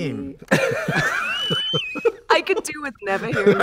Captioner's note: laughter